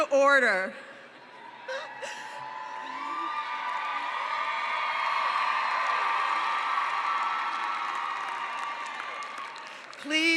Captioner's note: cheering and applause